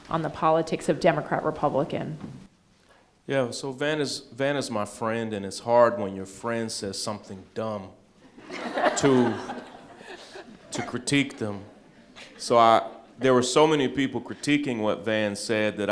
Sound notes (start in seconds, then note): 8.2 all laughing